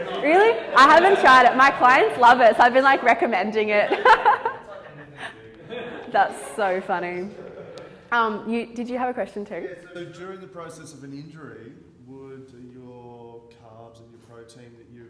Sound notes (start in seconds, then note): 3.9 laughs